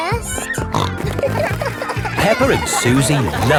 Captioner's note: snorting